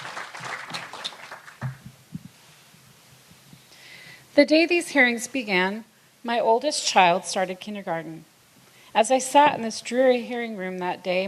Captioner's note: applause